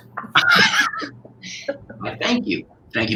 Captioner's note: laughter